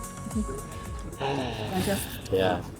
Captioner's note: sighs